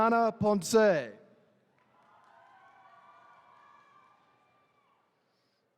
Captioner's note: attendees cheering